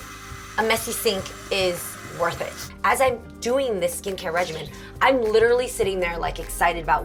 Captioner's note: none